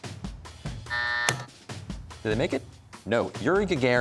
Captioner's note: buzzer sounds, button clicks